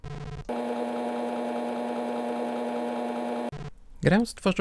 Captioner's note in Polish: dźwięk działającej stacji 3.5